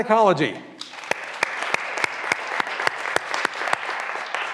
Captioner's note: graduands applauding